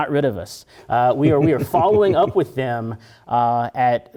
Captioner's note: laugh